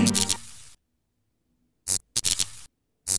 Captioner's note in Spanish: Ruido de corto circuito